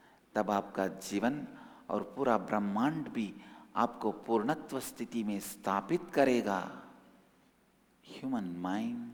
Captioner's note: hindi